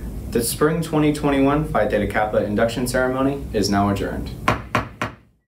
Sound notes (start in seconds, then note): 4.4 gavel tapping